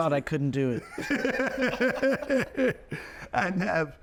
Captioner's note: laughing